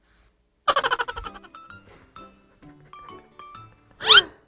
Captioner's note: laughter heard off-screen